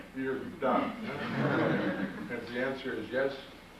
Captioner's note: audience laughs